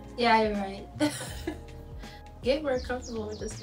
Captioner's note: laughs